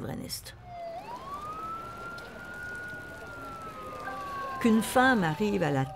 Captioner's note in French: sirène